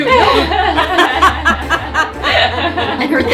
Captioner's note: laughing